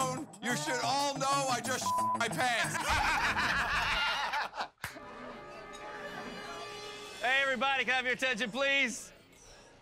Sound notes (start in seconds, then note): 2.6 laughing